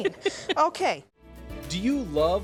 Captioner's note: laughing